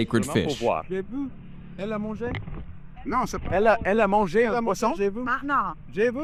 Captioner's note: people speaking in foreign language